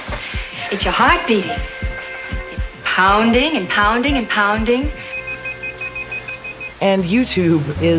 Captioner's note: beeping accelerates